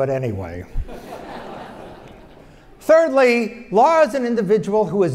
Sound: laugh

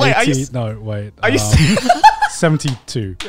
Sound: everyone laughs

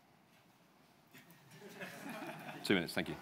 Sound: audience laughs

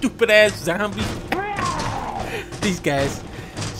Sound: chuckles more

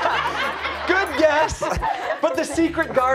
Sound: laughter

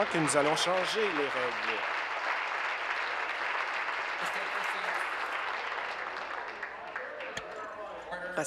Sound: applause

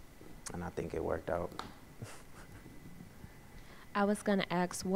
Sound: laughs

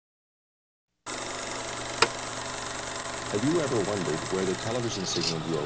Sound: projector clicking

